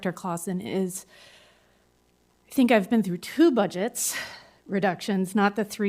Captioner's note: sighs